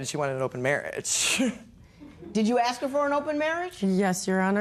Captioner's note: chuckles